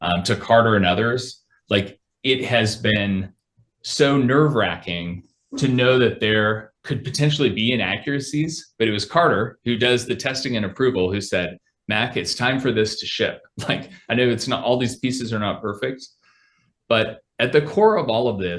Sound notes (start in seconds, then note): 13.5 laughs